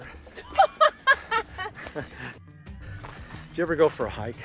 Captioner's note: laughing